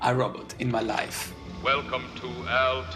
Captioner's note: soundbite of film, "forbidden planet"